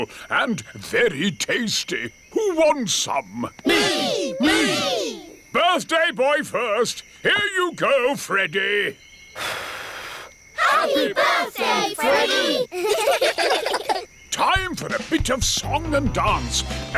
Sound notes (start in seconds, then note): 9.4 blows; 12.8 children giggle